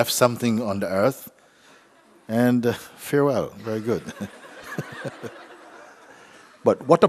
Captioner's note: laughter